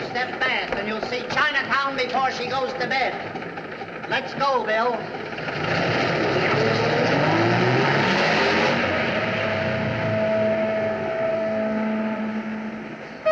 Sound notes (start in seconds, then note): 9.0 ship Horns Blowing